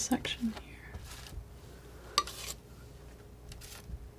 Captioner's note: scratching